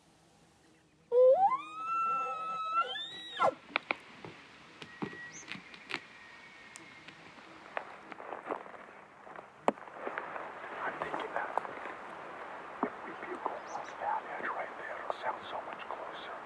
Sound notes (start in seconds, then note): 1.1 hunter Bull Call; 4.4 bull response bugle